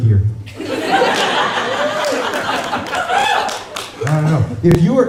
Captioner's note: laughter